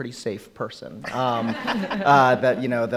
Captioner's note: laughing